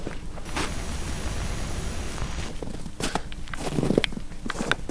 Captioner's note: static hissing